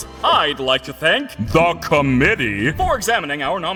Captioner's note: deep voice